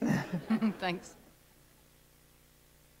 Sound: laughter

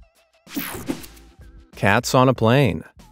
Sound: screen whooshing

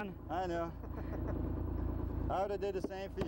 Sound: laughter

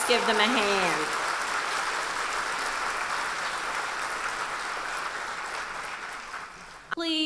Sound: applause

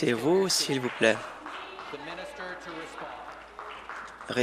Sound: voice trailing

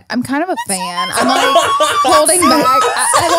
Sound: everyone laughs

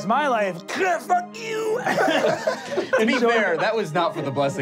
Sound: laughing

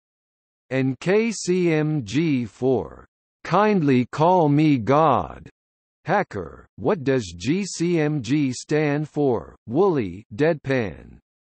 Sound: deadpan

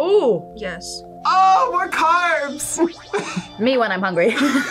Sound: laughs; both laugh

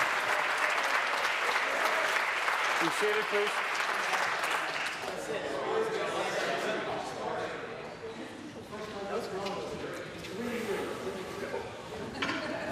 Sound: some Applause

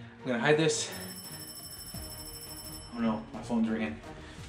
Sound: ringing

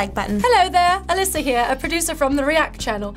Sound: in British accent

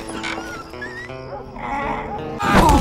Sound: groan of sadness

